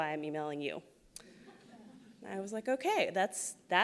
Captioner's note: laughs